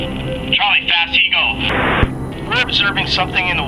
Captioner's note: voiceover